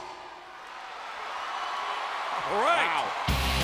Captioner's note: audience cheering